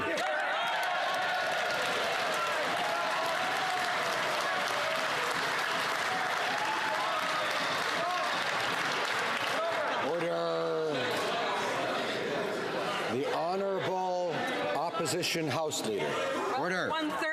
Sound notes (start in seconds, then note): 3.1 some Applause